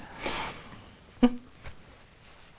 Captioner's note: laughter